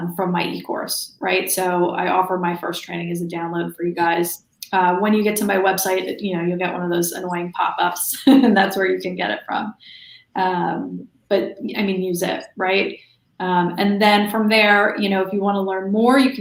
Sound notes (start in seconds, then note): 8.1 laughs